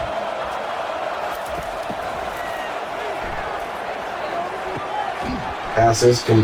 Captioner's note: crowd Noises